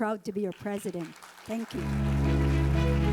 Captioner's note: audience applauding; inspiring music